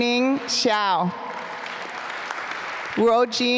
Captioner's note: applause